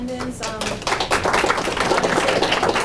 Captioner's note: audience applauding